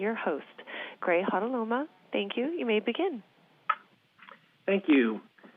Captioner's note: stammers